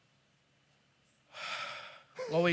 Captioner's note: sighs